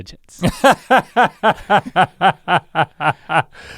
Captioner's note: Rhett laughs